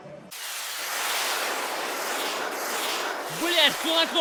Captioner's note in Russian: звук залпового огня